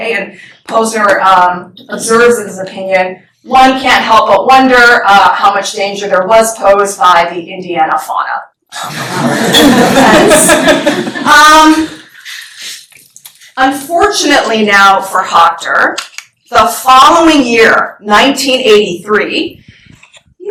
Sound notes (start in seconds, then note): 8.9 laughter